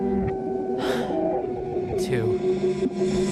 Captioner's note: breathes out